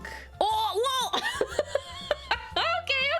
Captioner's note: laughs